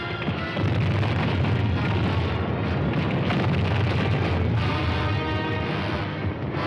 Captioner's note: bombs exploding